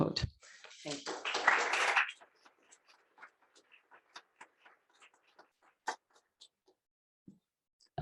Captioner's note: applause